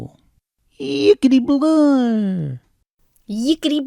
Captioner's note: Poodle Boople exclaims incoherently